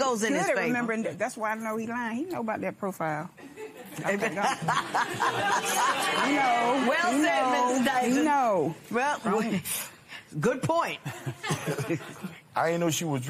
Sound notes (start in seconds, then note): 4.3 laughs